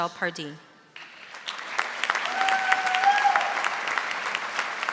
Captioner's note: audience applauding